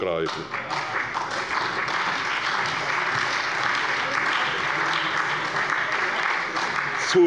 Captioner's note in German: Beifall bei der SPD und der FDP